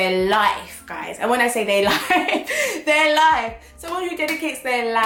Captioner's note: laughs